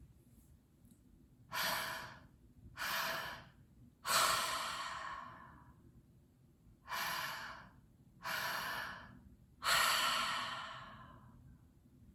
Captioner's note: breathing